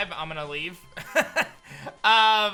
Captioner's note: laughs